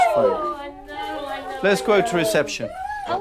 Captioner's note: Brody whining